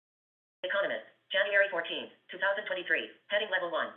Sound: VoiceOver voice

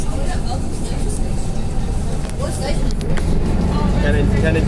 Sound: bus Noises and General Chatting

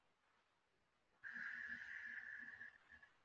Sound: exhaling

